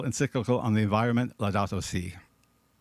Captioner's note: speaking in foreign language